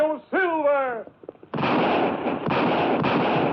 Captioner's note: gun firing